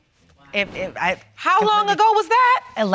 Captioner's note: stammering